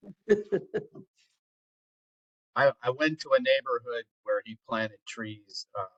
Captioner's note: laugh